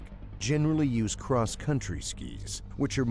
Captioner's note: voiceover